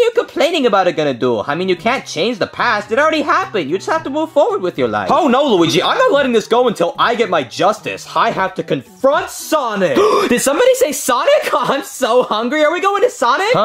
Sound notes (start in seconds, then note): 10.0 Junior gasping